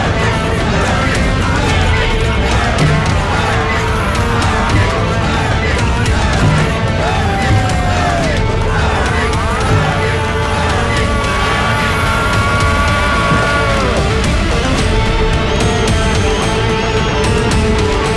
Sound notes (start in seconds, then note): 2.0 crowd Cheering